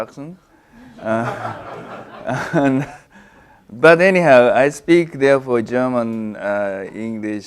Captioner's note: laugh